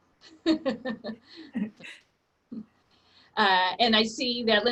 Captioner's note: laughs